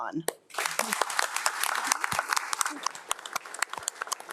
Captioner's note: crowd applauding